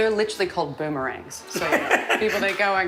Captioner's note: laughing